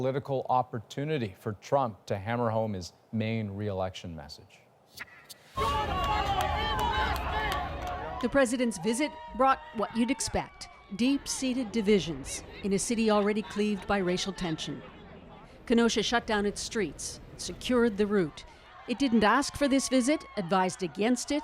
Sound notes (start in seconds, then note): 10.5 crowd noise